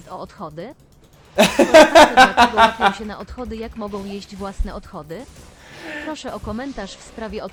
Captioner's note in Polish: śmiech